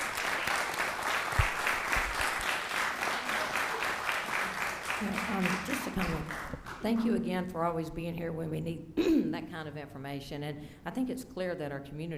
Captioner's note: applause